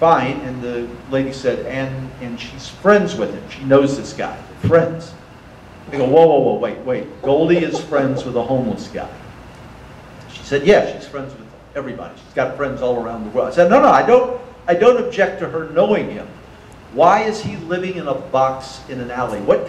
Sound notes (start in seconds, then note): 7.6 audience laughter